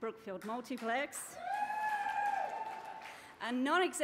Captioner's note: cheering